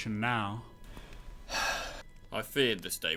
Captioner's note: sighs